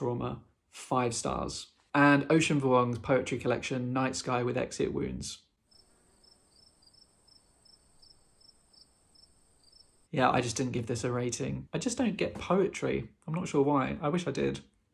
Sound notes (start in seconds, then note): 8.9 crickets